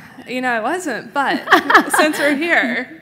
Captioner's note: laughs